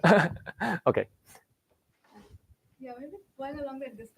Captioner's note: laughs